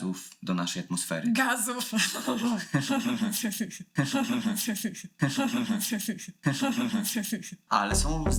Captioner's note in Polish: głupkowaty śmiech; energiczna muzyka